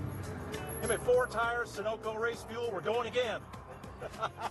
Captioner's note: laughter